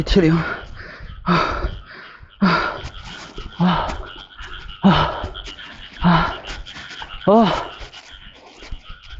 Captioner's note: heavy panting